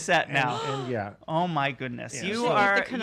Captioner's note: gasping